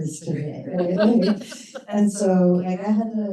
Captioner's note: laughter